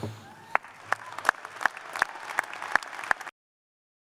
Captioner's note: cheers and applause